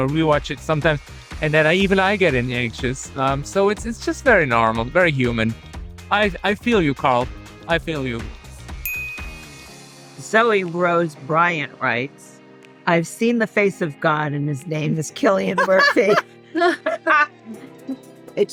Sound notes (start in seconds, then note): 8.8 graphics chimes; 15.5 group laughing